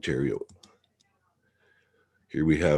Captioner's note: mouse clicking